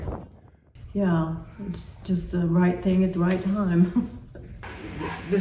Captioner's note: laughs